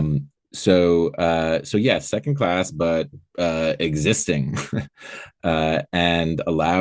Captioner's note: laughing